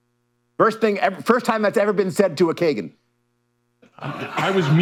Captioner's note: laughter